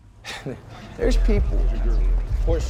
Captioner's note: chuckles